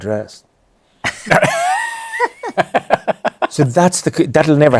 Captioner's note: laughter